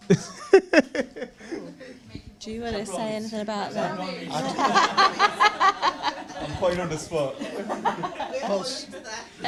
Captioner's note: chattering and laughing